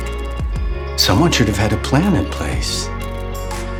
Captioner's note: voiceover